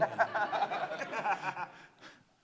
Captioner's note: laughter